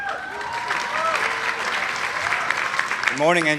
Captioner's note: audience applauding